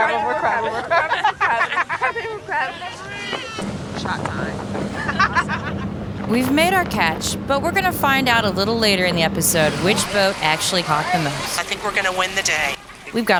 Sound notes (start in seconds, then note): 4.9 laughter